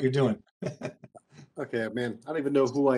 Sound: laughing

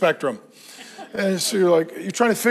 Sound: congregation laughs

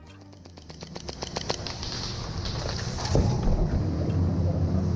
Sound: guns click rapidly

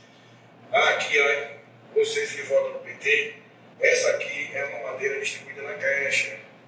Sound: man on video speaks in foreign language

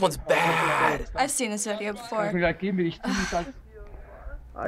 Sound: sighs

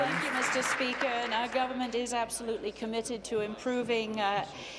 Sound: applause

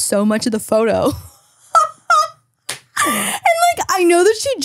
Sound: laughing

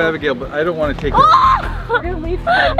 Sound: screaming

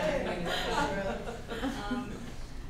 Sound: laughs

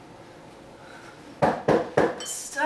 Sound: knocks

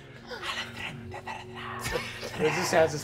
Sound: whispering in Elvish

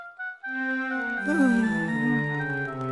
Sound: heavy sigh

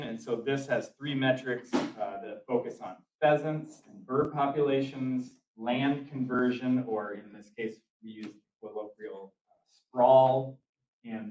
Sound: door opens

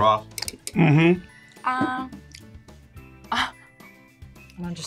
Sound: chuckles

